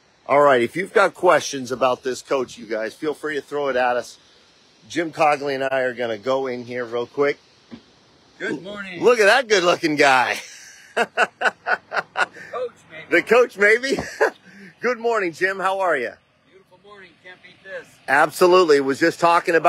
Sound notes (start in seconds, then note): 10.3 laughing